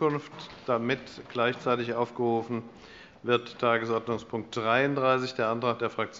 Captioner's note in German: none